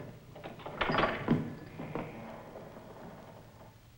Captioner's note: gate clunks